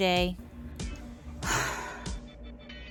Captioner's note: sigh